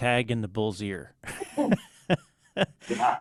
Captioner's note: both laughing